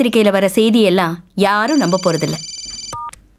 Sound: phone rings

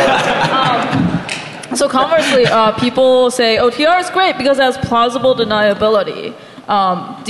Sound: laughing

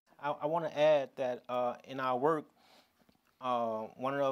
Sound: none

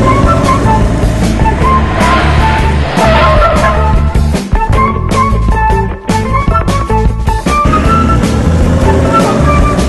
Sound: the orange car is running around the map, the engine sound, background music; the red car is running around the map, the engine sound, background music

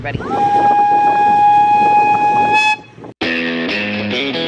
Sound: train whistle blowing; upbeat guitar music

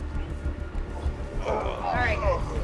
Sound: groaning

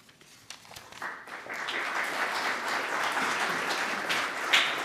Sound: audience clapping

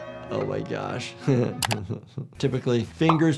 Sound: chuckling

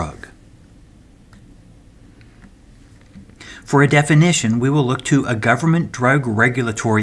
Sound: turn page

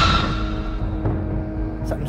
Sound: Raptor Squeals

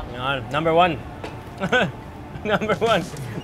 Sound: laughs

